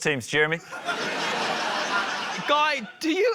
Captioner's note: laughter